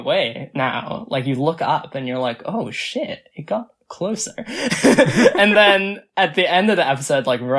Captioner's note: both laugh